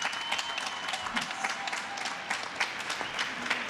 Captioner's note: applause